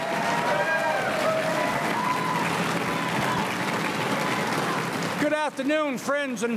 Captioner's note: crowd cheering and applauding